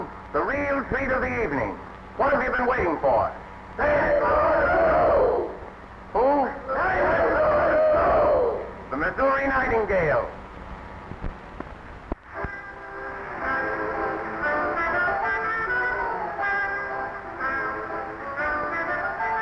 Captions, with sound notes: the real treat of the evening. What have you been waiting for? - [Crowd] St. Louis Lou. - Who? - [Crowd] St. Louis Lou. - The Missouri Nightingale.